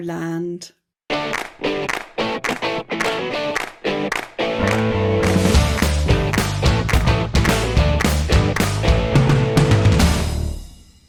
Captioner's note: claps